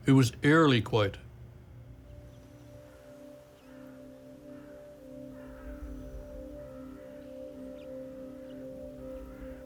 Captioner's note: silence